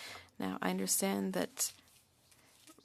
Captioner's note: speaking French